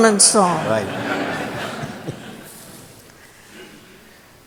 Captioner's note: laughter